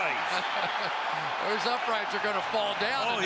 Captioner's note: chuckles